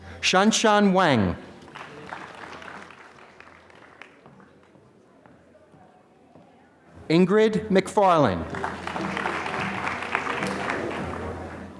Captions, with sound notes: Shan Shun Wang. (applause) Ingrid McFarland. (applause)